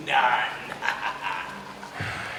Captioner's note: laughs ominously